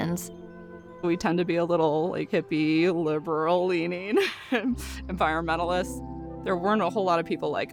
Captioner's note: chuckles